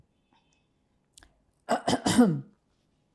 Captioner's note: clears throat